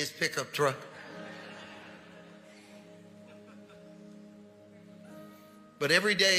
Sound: congregation laughing

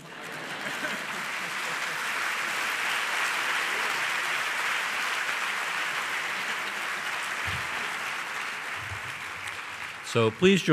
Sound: laughter & applause

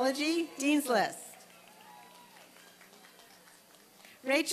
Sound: applause and cheering

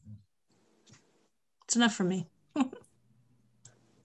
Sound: laughs

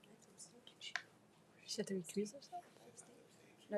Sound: people chattering

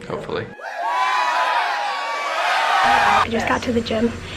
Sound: cheering

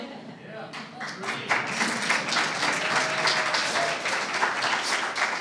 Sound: audience applauding

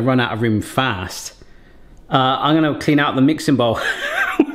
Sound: laughs

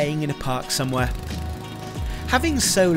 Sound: engine revving

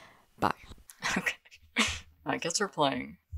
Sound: nervous laughter

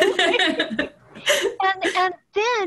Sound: laughter

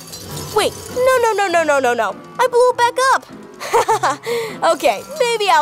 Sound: giggles

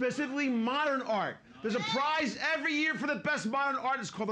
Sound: audience shouts

